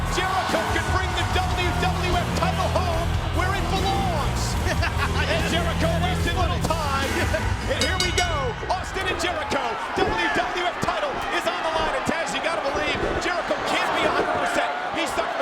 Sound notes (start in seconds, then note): 4.7 chuckles; 7.6 bell rings